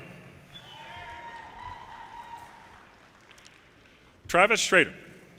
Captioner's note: audience cheers and applause